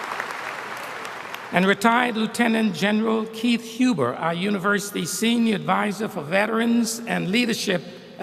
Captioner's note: applause